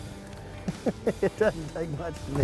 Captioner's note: laughing